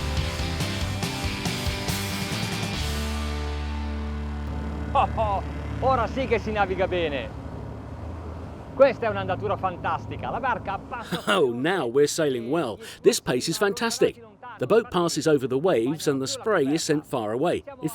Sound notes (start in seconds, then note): 4.9 chuckles; 6.0 speaking in foreign language; 11.0 chuckles